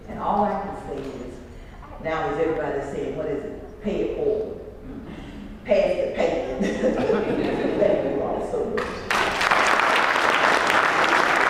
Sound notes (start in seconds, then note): 6.4 laugh; 8.8 applause